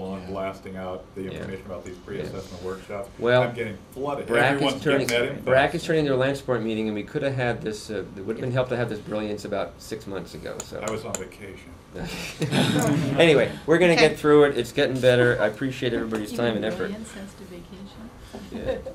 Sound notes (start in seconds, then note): 12.0 laughter